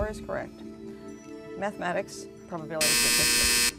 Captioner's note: final buzzer